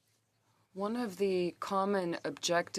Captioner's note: speaking French